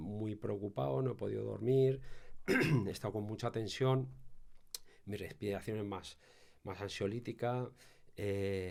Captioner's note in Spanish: carraspeo